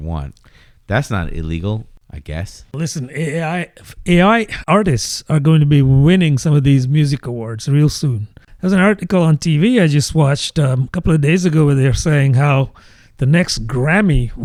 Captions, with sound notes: want. That's not illegal I guess. listen [UH] I A .I artists are going to be winning some of these music awards real soon. There's an article on TV I just watched a couple of days ago where they're saying how the next Grammy